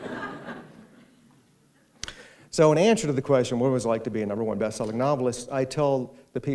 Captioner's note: laughter